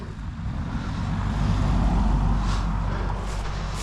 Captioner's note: traffic whooshing